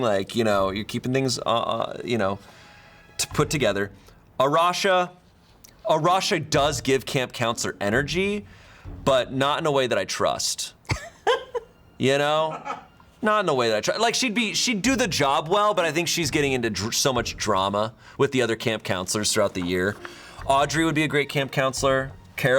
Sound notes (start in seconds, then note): 10.9 crew member laughing